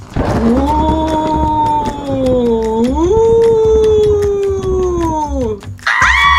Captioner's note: thunder clap; spooky voice; screams